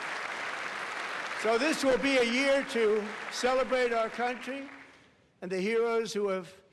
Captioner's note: applause